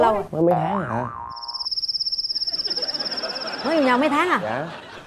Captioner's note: cicada